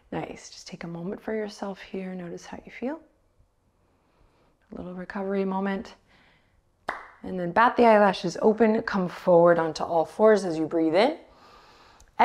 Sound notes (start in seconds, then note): 6.9 claps